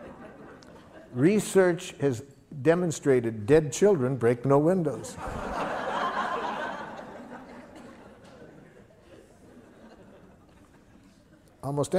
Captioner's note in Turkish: Gülüşmeler; Gülüşmeler